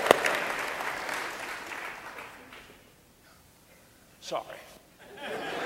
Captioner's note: audience applauding; audience laughing